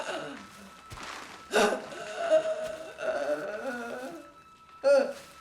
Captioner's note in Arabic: جوان تلهث